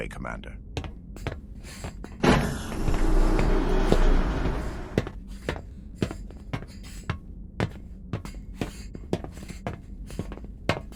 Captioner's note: footsteps, door opens and closes